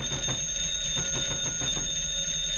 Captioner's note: phone ringing; knocking on door